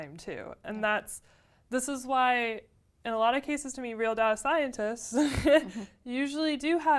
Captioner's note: laugh